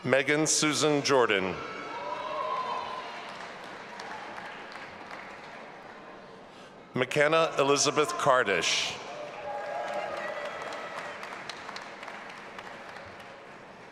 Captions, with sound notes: Megan Susan Jordan. (audience applauding and cheering) McKenna Elizabeth Kardish. (audience applauding and cheering)